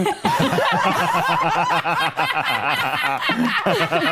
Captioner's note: all laughing